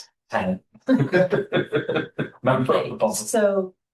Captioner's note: laughter